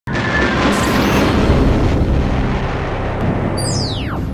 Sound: sound Effects

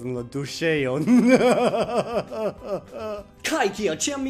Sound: evil laughter

